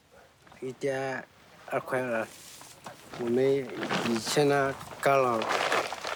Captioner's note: speaking in foreign language